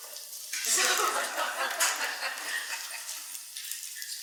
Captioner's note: laughs